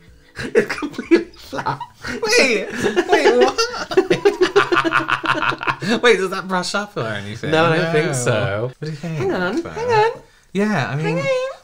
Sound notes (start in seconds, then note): 2.7 the Evilest Cackle